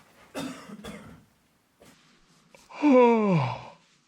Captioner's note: coughs; yawns